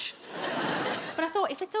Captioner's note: audience laughs